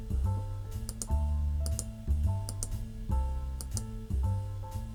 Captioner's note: mouse clicking